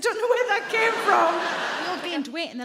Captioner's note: audience laughing